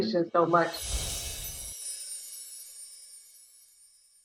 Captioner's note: chimes ringing